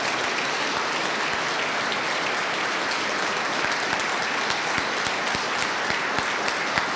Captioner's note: applause